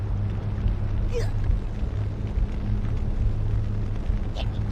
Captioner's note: sob